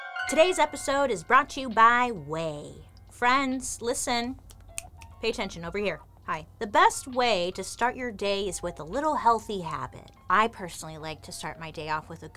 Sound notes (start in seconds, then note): 4.4 snaps